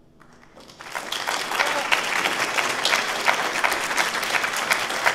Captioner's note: audience applauding